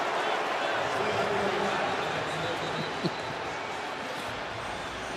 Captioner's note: announcer on pa